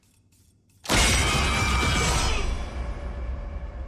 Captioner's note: classic FNAF jumpscare sound effect